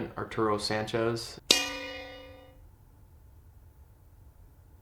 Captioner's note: bell dings